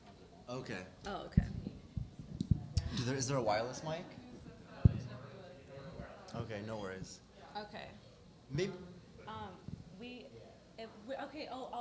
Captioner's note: chatter